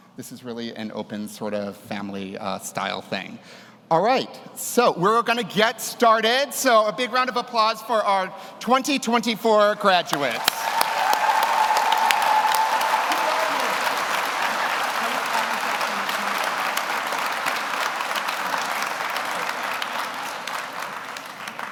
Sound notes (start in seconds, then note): 11.3 audience cheers; 11.3 everyone applauds